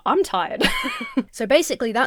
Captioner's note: Emma laughs